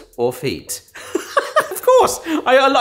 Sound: laughs

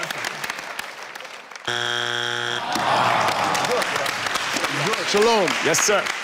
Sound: buzzer indicating wrong answer

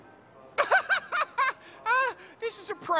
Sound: laughing

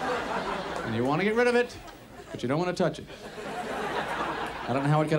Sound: audience laughs

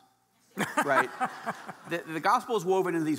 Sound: laughing

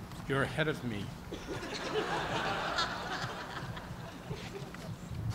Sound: laughter

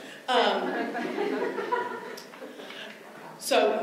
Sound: laughter

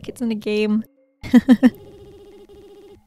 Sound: laughs

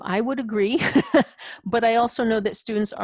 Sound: laughs

